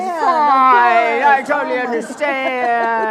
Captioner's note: laughs